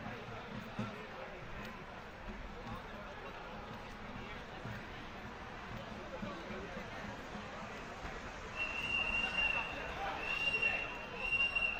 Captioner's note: whistleblowing